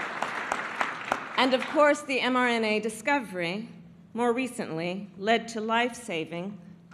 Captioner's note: applause